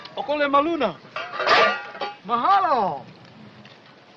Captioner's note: speaking in italian